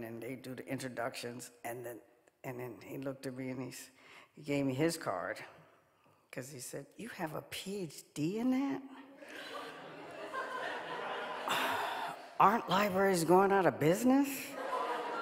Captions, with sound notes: and they do the introductions. And then, he looked at me and gave me his card, 'cause he said you have a PhD in it? (audience laughing) Aren't libraries going out of business?